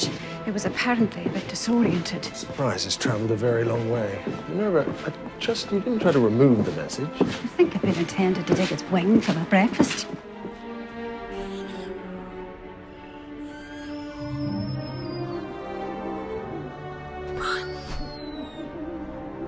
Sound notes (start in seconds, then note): 11.2 owl hooting; 17.2 squawks